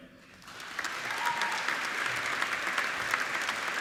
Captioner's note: applauding